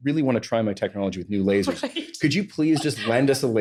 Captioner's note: laughs